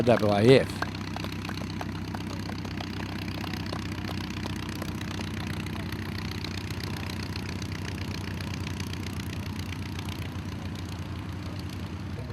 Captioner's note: applause and aircraft sounds